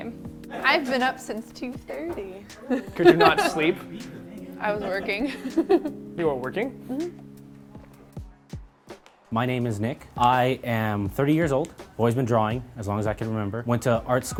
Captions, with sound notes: I've been up since 2:30. -Did you not sleep?- I was working. -You were working? [affirmative noise] My name is Nick. I am 30 years old always been drawing as long as I can remember. Went to art school,